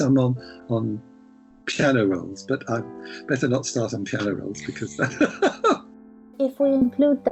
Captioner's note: laughs